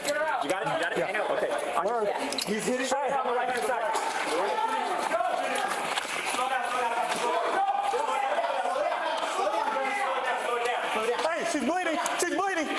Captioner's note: shouting